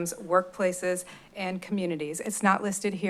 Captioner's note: none